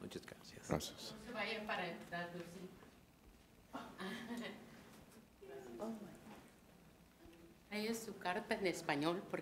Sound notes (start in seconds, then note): 0.2 man speaks in a foreign language; 1.7 woman speaks in a foreign language